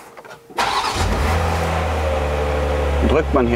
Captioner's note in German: Motor gestartet